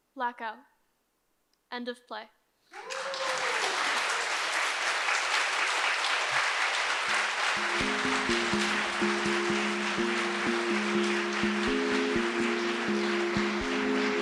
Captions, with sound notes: - Black out. End of play. (audience applauds) (pensive music)